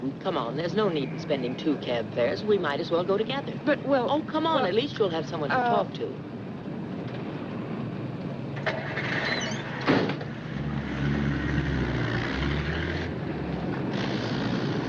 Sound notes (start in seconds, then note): 9.9 car door thudding; 10.0 car engine rumbling